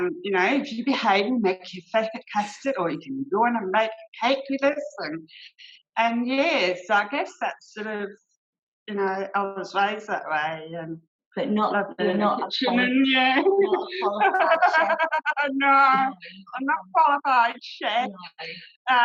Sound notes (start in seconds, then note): 13.3 laughter